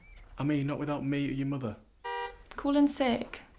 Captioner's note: car honks